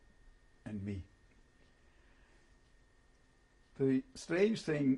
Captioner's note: pauses for 3 seconds